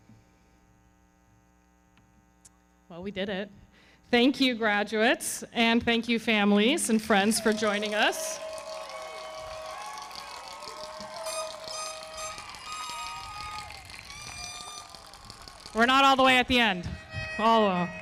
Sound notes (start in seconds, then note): 9.1 audience cheering; 9.1 everybody clapping; 10.9 foghorn blowing